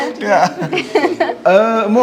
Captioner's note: laughs